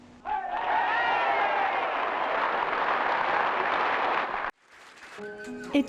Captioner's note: people cheering and clapping; light music